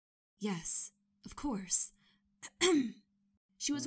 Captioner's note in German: Ah-em